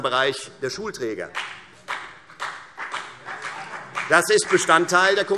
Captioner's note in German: Beifall Freie Demokraten und vereinzelt CDU